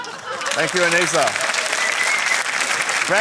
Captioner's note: applause